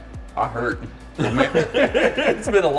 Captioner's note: all laughing